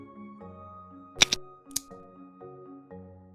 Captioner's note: click sound